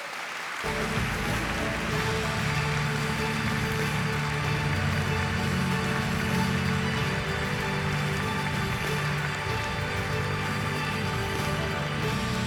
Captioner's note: applause